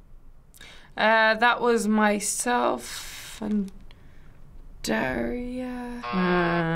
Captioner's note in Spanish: zumbador